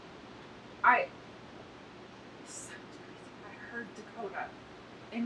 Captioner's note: Amanda whispers indistinctly